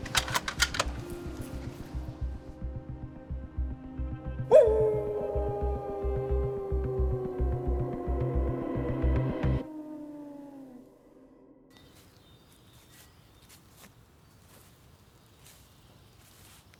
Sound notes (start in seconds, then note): 0.0 rifle clacking; 4.4 wolf howling; 6.6 tense music; 11.6 birds chirping; 11.8 footsteps pattering